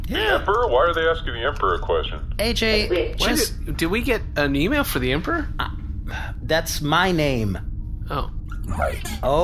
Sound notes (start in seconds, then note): 6.1 unbelievably irritated